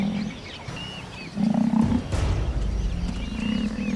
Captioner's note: lions growling